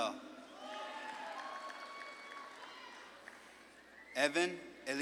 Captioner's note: audience claps and cheers